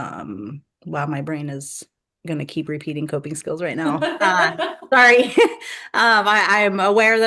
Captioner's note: laughter